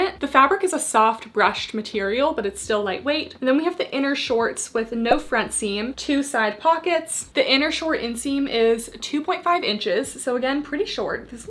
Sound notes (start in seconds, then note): 5.1 graphics beeping